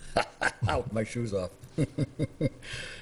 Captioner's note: laughs